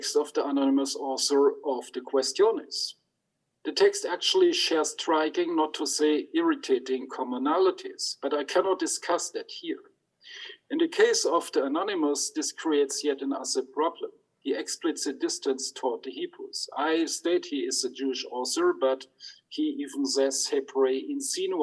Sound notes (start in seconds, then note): 19.4 speaks in Hebrew